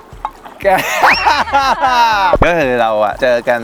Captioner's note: laughing